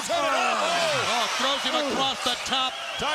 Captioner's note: commentators exclaim